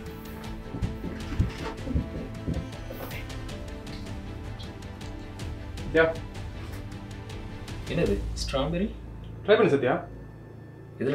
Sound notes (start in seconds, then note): none